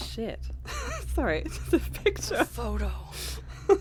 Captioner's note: laugh; laughs